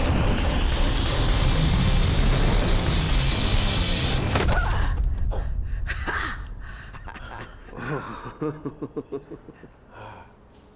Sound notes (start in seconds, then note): 6.3 laughs; 6.9 chuckles